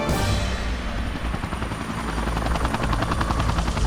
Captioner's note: helicopter whirring